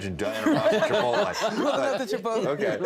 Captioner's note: all laughing